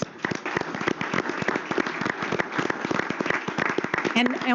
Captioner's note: applause